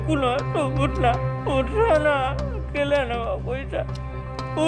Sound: crying

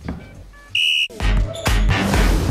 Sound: whistle

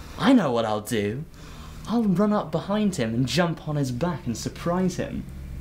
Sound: none

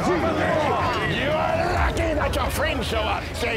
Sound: french accent

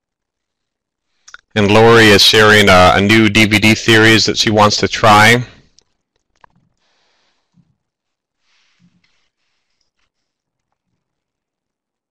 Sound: silence

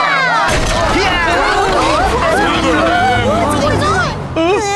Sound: indistinct shouting

